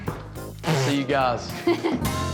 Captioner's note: laughs